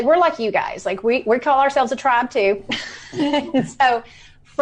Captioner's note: laughs